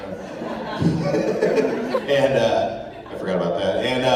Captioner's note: laughter